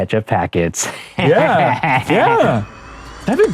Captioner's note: laughing